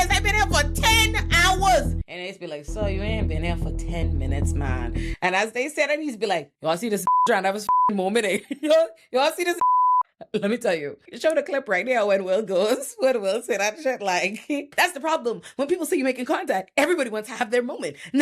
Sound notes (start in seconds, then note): 7.0 beep; 9.6 beep